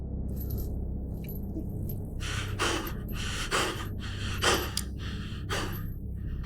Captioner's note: panicked breathing